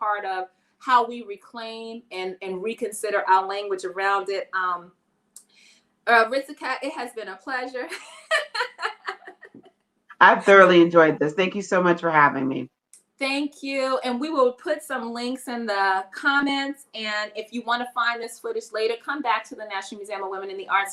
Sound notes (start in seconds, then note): 7.8 laughs